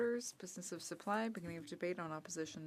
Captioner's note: speaking French